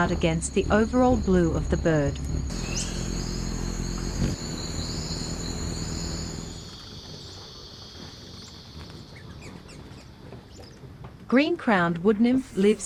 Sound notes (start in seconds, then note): 4.4 birds chirping; 7.1 bird chirping; 7.1 cicada sounds